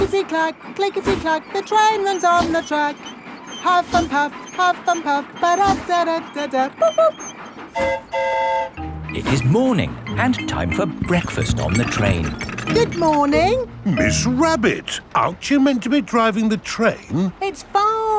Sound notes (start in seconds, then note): 7.7 train whistle toots; 7.7 mimics train whistle